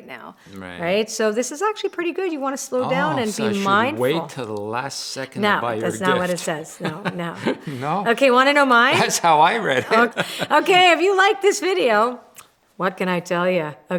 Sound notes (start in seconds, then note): 8.9 laughs